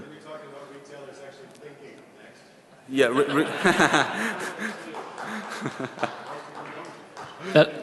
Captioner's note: laughing